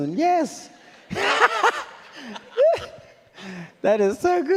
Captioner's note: laughs